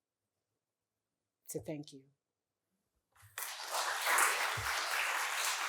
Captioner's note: applause